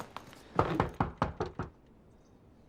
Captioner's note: knocking